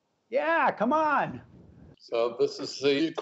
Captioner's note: laughter